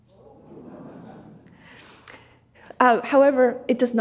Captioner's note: audience laughs